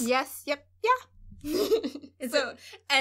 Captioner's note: laughter